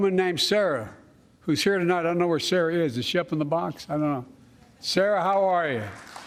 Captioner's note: applause